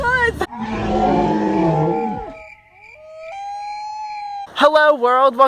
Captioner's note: animal growl, crickets, and other forest noises